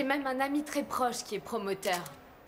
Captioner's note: camera clicks